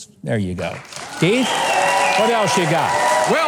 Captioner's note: audience applauding